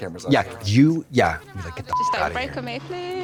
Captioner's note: beep